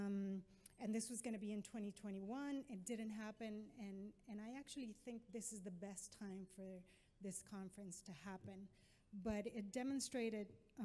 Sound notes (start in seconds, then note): none